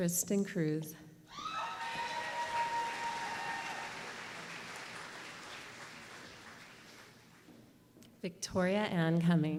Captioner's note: applause